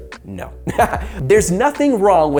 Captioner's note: laughing